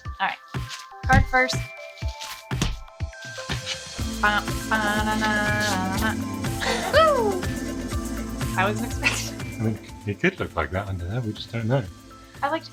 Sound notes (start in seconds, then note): 4.3 babbling